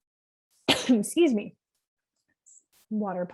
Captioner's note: coughs